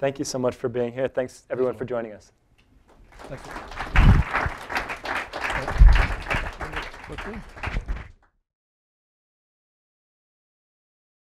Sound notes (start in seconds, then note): 4.7 applause